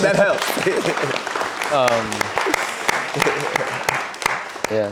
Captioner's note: audience applauding